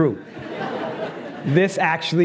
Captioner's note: laughs